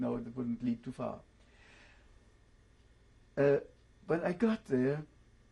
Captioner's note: pauses for 3 seconds